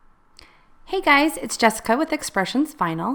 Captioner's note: voiceover